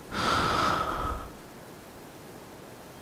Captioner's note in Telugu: నిట్టూర్పులు